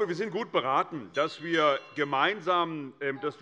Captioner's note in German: Unruhe - Glockenzeichen des Präsidenten